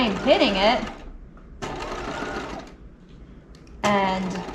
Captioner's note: sewing machine whirling